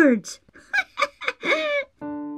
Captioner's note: laughing